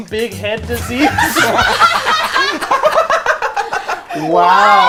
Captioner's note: group laughs